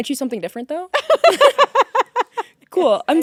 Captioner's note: both laughing